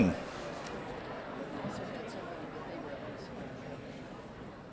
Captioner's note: audience chatters